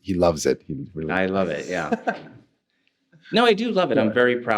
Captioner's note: laughs